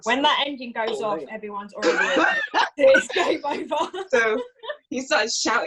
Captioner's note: laughs